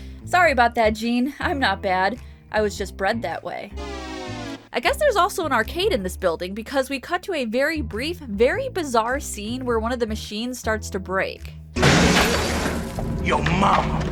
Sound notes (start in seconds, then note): 3.8 waaah sound effect